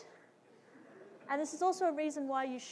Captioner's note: audience laughing